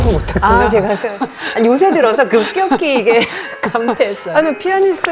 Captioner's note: chuckles